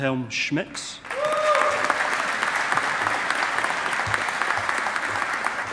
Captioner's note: audience applauding